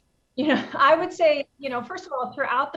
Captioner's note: chuckles